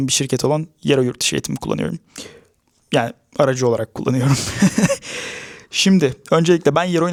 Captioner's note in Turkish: kahkaha